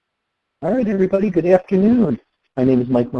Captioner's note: voiceover